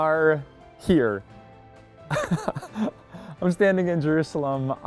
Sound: pastor: Laughter

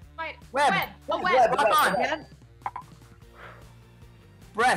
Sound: bell dings

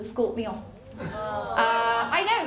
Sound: audience ‘aaaw’

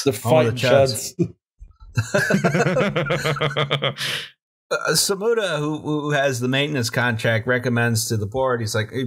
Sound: laughter

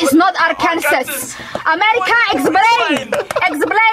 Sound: everyone laughs

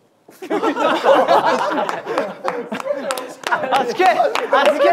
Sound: group laughter

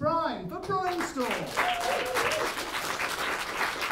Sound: applause

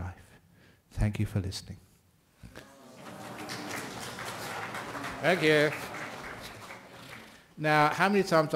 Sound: APPLAUSE and SADDHUS

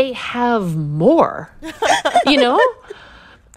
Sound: laughter

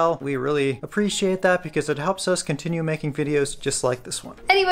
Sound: none

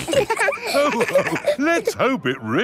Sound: all laughing

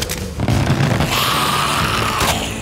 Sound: growling

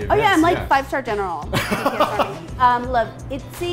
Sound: laughing

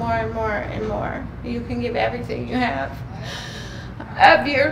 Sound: crying

